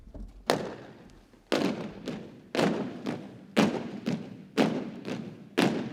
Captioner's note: boots thumping rhythmically